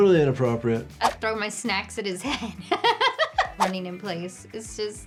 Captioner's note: laughs